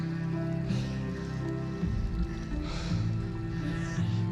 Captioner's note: man panting